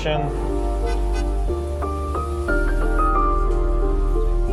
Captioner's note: traffic noises